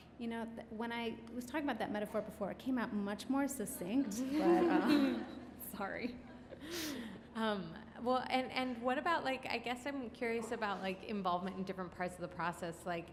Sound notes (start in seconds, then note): 4.2 laughs; 4.2 audience laughs